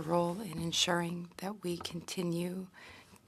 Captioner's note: speaking French